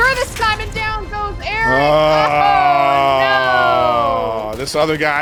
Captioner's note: groaning